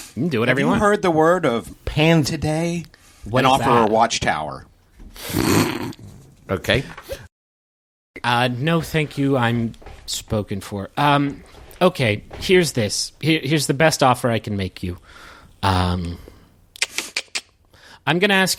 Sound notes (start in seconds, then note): 5.2 snort; 16.8 clicks tongue